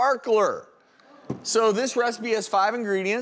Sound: audience gasps

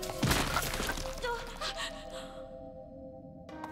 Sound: gasps

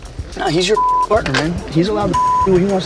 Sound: beep

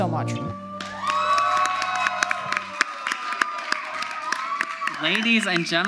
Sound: audience cheers; audience applauds

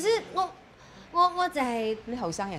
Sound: in Cantonese

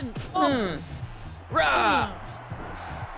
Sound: applause

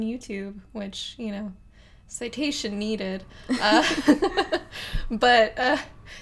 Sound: laughs

